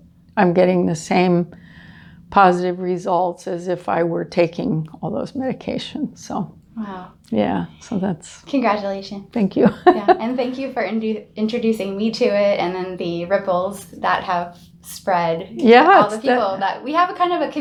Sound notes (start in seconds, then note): 9.6 laughing